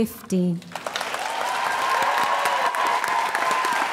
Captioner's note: applause